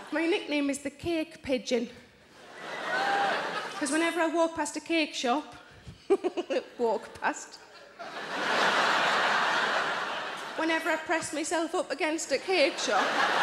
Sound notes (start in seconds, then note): 6.1 chuckles; 7.8 audience laughs